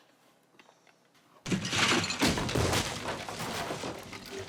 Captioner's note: crashing